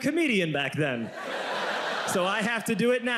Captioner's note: audience laughs